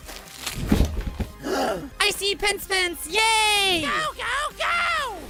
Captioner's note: gasp